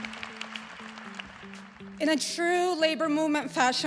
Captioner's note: applause